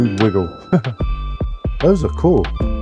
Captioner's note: chuckles